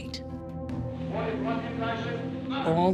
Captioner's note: man shouting commands